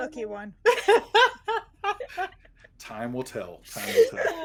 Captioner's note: everyone laughs